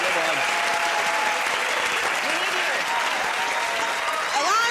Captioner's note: cheers and applause